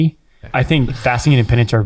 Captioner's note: chuckles